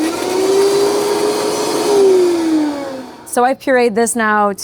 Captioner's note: machine whirring